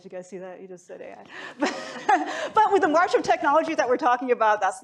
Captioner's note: laughs